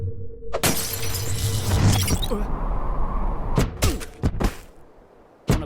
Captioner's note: machine crackles